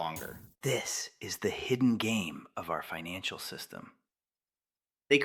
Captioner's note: whispers